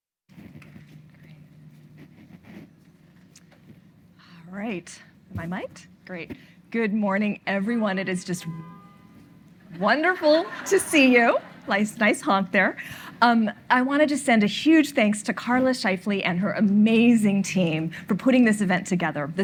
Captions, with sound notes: - All right. Am I miked? Great. Good morning, everyone. It is just (horn honking) wonderful to see you. Nice honk there. I want to just send a huge thanks to Carla Scheifly and her amazing team for putting this event together.